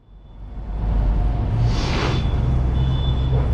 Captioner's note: sniffle